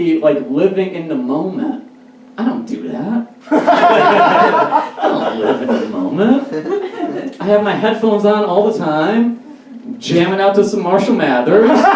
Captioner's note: audience Laughs; audience Laughs